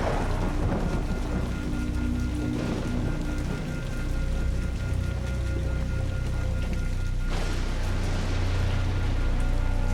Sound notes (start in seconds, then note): 0.0 thunder rumbles; 0.0 rain pattering